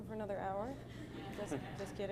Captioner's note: laughter